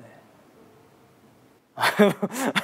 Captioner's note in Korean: 웃음